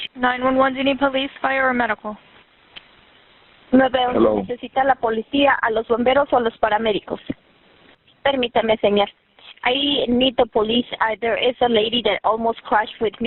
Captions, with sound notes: 911, do you need police, fire, or medical? - Hello - (Speaking in a foreign language) (Woman speaking in a foreign language) I need the police There is a lady that almost crashed with me